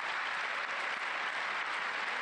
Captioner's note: applause